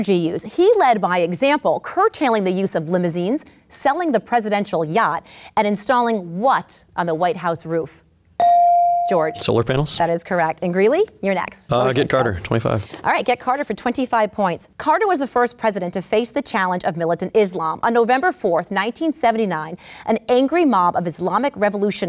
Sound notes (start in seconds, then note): 8.4 ding